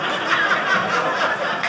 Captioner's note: audience laughing